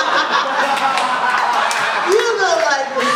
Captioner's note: laughs loudly; laughter and applause